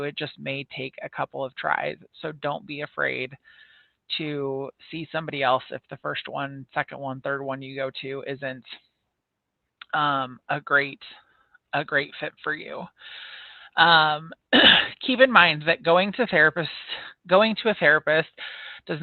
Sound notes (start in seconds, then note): 14.6 clears throat